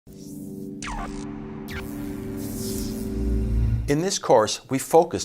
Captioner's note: electric reverberation